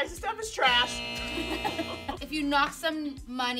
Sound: buzzer noise

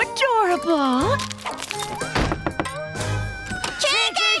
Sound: knocking

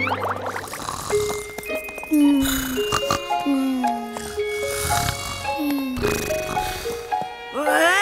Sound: snoring

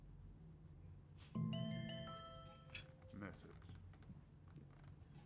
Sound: phone bleeps - "message"

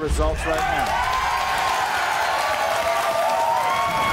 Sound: audience cheers

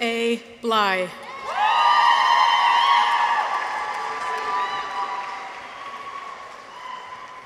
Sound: people cheer; audience applauds

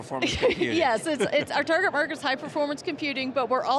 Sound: laughing

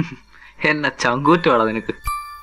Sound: chuckles

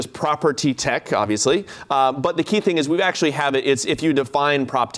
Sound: none

